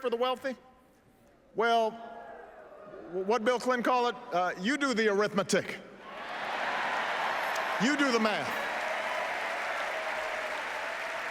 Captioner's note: applause